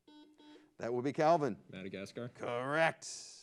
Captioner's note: buzzer beeps